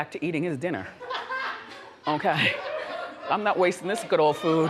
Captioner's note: audience laughs